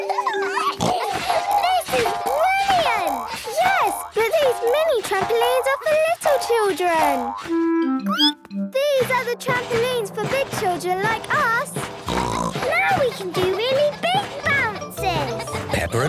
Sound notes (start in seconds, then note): 0.0 giggles, snorts; 8.0 squeaks; 12.0 snorts